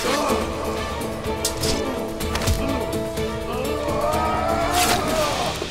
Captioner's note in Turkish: Müzik - Gerilim; Boğuşma sesleri